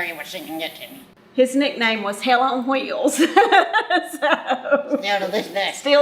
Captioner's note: laughs